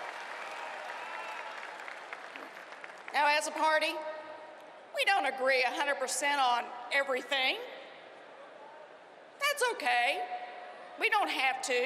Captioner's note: cheering and applause